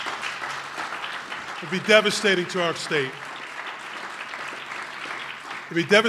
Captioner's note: applause